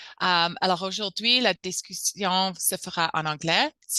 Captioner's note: speaking french